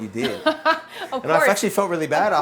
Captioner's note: laughs